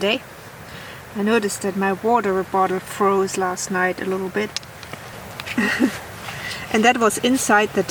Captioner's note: laughs